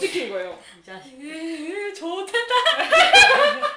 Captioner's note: saying like a bully; laughs